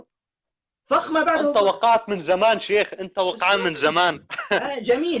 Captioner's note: laughter